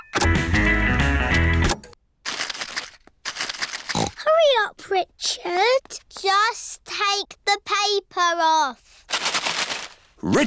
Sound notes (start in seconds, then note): 1.8 music stops; 3.8 snorts